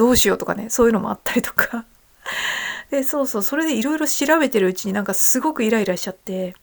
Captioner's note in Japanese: 息をのむ音